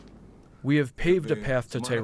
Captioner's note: through translator